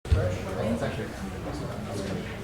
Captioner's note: background conversations